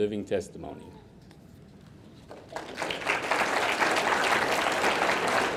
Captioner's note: audience clapping